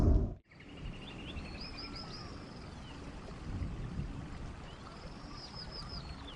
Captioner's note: birds chittering; water sloshing